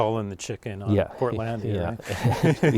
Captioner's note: laughing